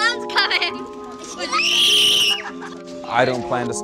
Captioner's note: screaming